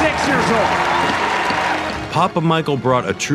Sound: people cheering

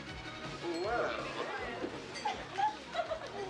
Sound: giggling

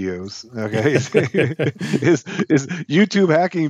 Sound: both laughing

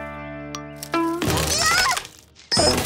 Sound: thud

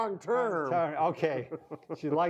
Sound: chuckles

